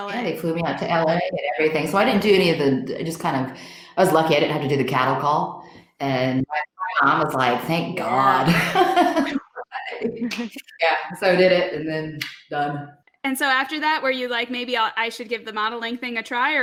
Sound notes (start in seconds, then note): 13.3 clicks tongue